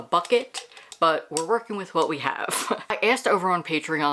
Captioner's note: laughs